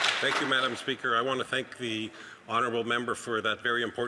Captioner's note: some Applause